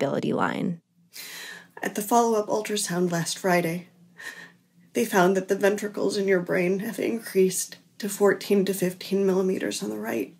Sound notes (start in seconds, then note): 1.1 breath